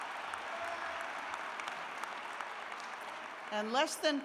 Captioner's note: cheers and applause